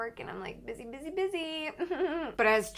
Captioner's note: fake laughing